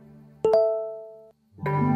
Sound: phone chimes

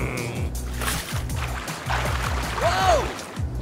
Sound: water splashing

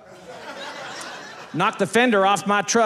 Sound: audience laughing

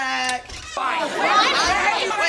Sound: clamoring

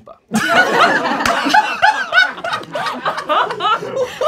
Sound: laughing

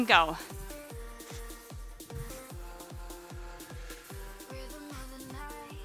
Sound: soft upbeat music; breathes

